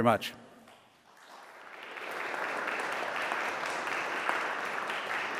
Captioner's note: audience applauds